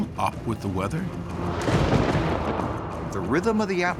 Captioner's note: thunderclap